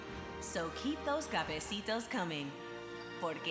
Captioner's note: speaks Spanish